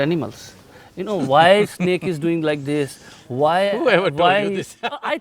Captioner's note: laughs